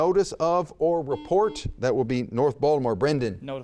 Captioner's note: buzzer beeps